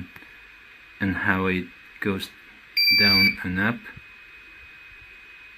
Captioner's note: loud beep printer restarting